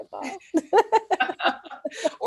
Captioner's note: laughter